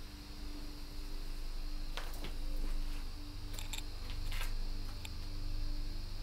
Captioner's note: footsteps and wind in the background